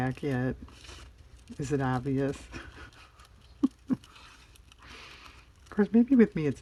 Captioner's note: laughs